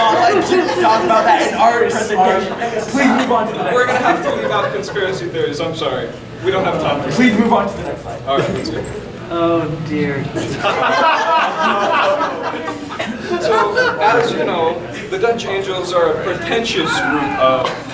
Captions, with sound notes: talk about that in our presentation. - Please move on to the next slide - We're going to have to leave out conspiracy theories, I'm sorry. - We don't have time for-- - Please move on to the next slide. - Alright. - Oh dear. (audience laughing) So as you know, the dutch angels are a pretentious group of--